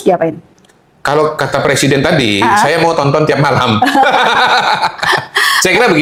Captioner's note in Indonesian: tertawa